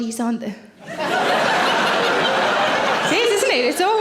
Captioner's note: audience laughing